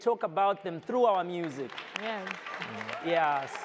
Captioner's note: audience applauds